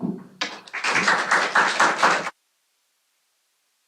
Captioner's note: applause